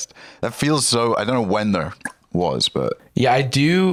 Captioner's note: clicks tongue